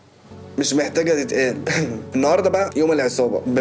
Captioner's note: chuckles